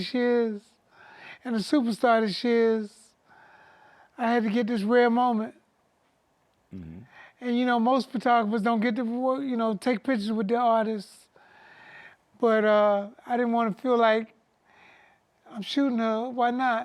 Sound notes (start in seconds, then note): none